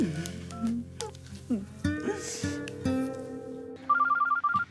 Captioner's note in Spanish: Sonido al marcar